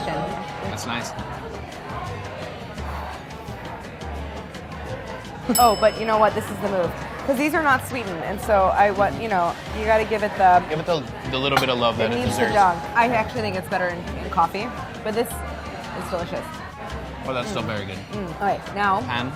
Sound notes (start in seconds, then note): 0.0 bell dinging; 2.8 heavy breathing; 5.5 bell dinging